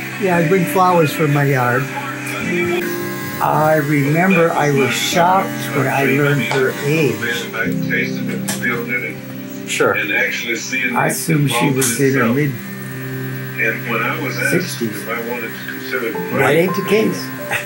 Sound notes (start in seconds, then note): 2.1 clippers buzzing